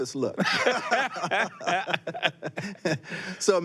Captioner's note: both laughing